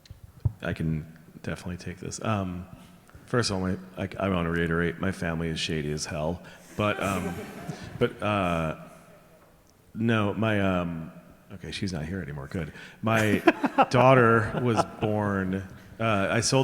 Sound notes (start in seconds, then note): 6.6 audience chuckling; 13.1 laughing